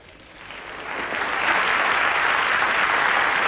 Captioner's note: applauses